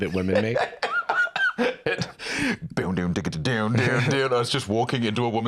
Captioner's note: laughs, does vocal guitar riff